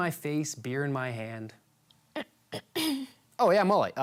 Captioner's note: clears throat